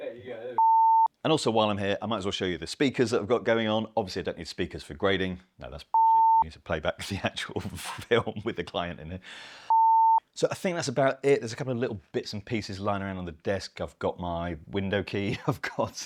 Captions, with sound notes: There you go. (beep) And also while I'm here, I might as well show you the speakers that I've got going on. Obviously I don't need speakers for grading. No, that's (beep) I need to play back the actual film with the client in it. (beep) So I think that's about it. There's a couple of little bits and pieces lying around on the desk. I've got my window key, of course.